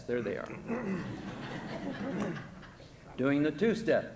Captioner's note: audience laughing